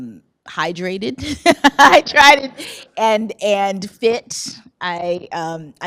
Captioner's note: laughs